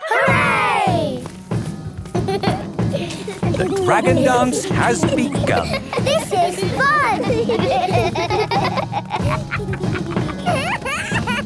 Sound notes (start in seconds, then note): 0.1 drumming; 0.1 laughter; 7.1 laughter